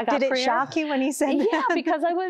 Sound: giggling

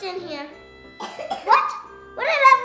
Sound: kid coughs

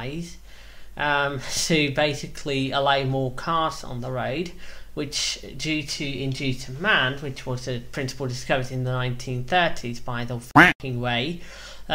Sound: quack

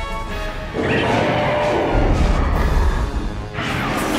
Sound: Fire Rodan roars; Rodan 2019 chitters

